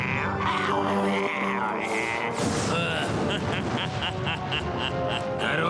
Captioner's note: evil laughter